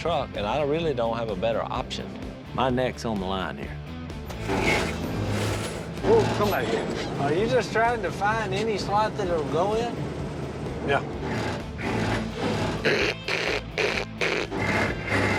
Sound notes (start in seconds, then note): 4.6 gears shifting; 10.0 gears grinding